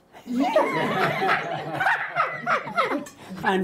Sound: laughter

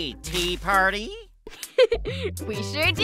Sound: laughter

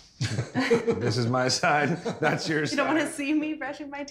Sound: laughing

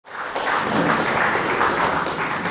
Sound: applause

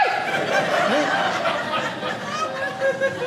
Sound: audience laughing

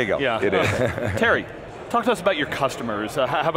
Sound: laugh

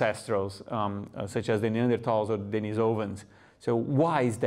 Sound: speaks rapidly

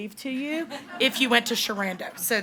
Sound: audience laughs

